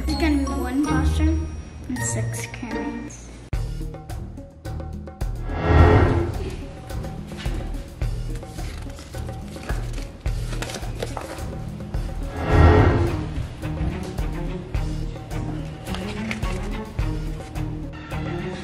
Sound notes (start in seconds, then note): 5.2 suspenseful music; 5.4 heavy whooshing; 12.2 heavy whooshing